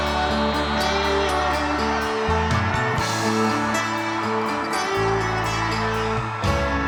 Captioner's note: applause; music ends and applause gets louder